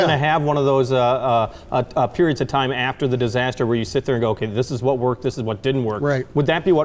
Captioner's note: none